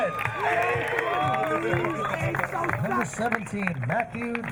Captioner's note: crowd cheering